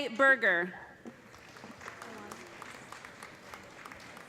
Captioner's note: applause